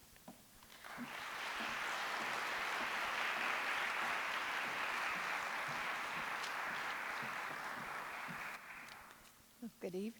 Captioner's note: applause